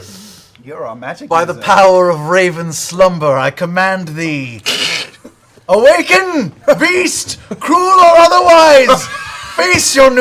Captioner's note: yells